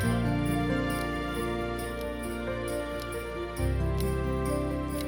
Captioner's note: ticking